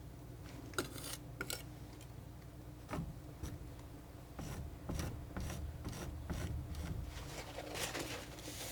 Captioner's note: tapping